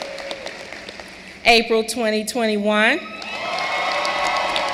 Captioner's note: cheering and applause